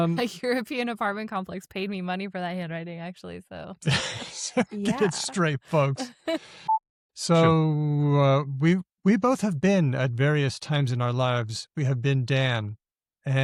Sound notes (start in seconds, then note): 0.6 chuckles; 7.4 boop